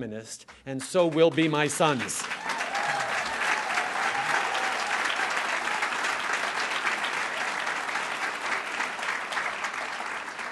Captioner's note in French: Acclamations et applaudissements